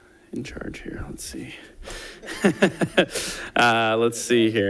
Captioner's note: laughs